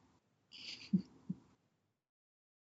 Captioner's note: laughs